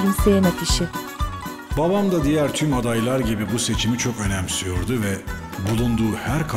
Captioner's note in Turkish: Ahmet dış ses